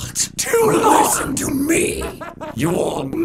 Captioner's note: distorted laughter